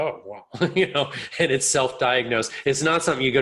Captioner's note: chuckles